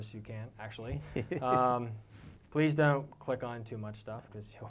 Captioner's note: laugh